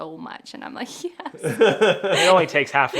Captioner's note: laughing